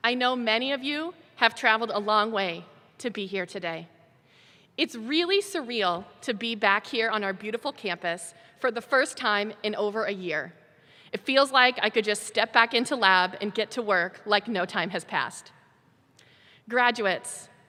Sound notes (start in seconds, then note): none